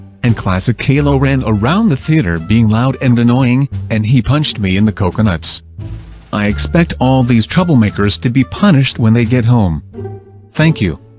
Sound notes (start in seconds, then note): none